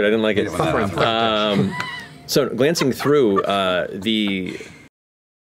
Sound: laughter

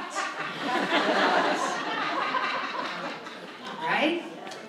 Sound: audience laughs

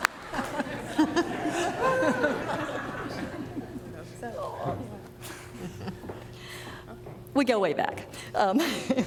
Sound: applause

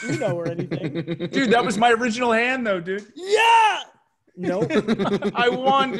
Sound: laugh

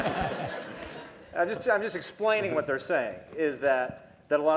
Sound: laughter

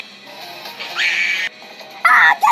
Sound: Glitche scream

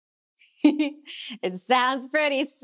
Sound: chuckles

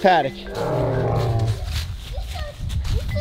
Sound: dinosaur roaring

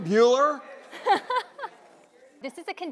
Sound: laughter

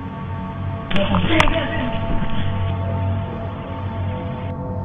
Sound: static hissing

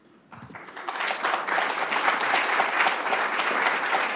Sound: clapping

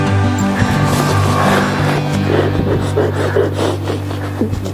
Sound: crying

